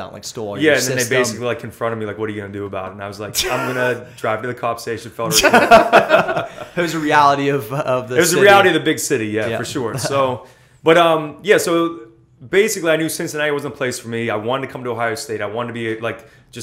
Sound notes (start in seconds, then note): 5.3 laughter; 9.8 laughter